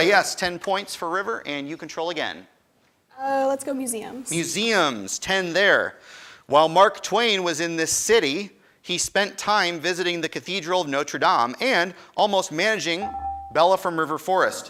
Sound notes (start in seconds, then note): 12.9 buzzer dings